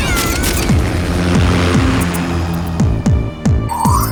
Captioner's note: camera shutter; helicopter flying